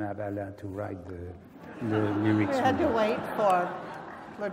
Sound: laugh

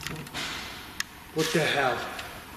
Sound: clank

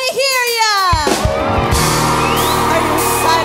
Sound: screams

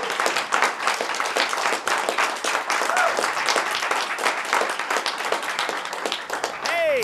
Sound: audience applauds

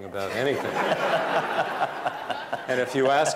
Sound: laughter

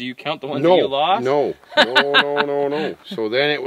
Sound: laughing

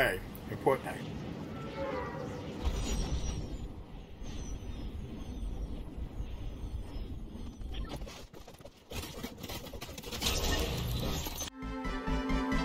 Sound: game noise; ♫ Cinematic Music ♫

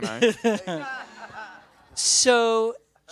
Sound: laughter

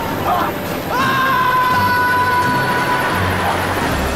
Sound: screaming

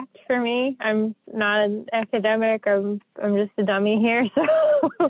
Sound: laughs

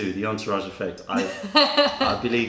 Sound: laughter

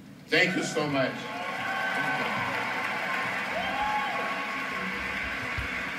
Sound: applause

